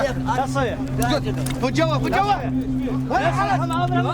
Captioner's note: shouting